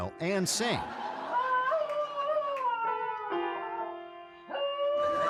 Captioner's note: dog howling